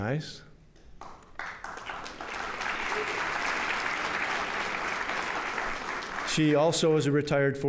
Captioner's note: applause